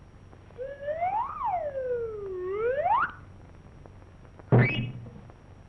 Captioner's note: slide whistle tooting